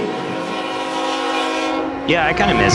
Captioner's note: train hooting